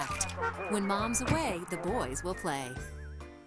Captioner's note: car Horn Honks